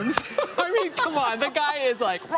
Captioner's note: laughs